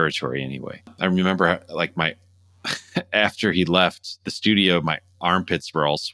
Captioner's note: laughter